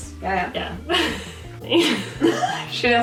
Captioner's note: laughs